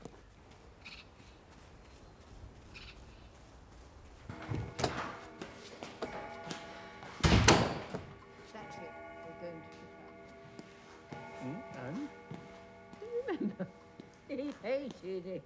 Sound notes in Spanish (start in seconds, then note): 3.9 reloj de pie sonando